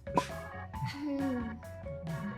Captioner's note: laughter; Hunter chuckles